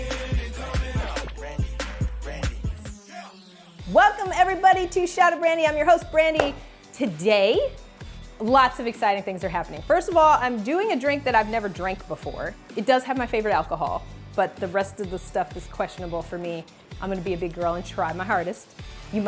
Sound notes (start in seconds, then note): 6.3 claps